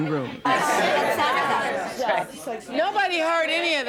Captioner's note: crowd talking